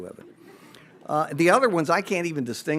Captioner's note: audience laughs